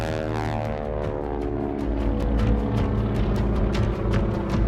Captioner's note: plane engine running; upbeat music